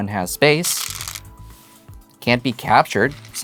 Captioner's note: stones rattling